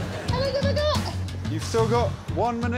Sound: Sarah mumbles

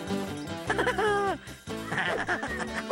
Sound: chuckling

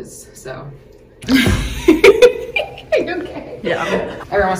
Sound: laughs

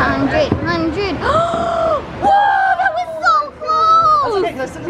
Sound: gasp

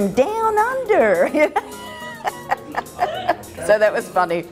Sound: laughs

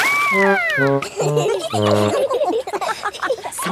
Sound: all laughing

